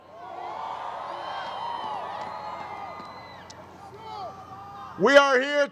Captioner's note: crowd cheers